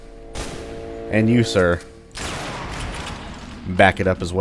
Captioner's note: bam; bam